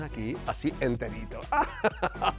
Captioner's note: laugh